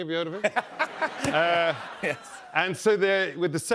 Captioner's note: laughter